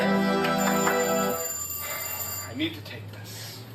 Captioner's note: phone ringing